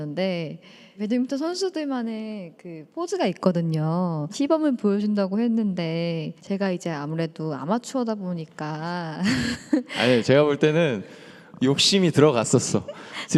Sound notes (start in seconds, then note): 9.2 laughter